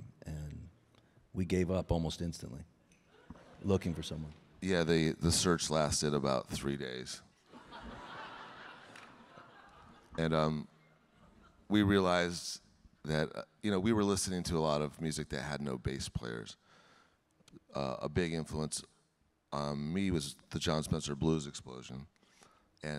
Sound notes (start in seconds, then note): 7.5 audience laughing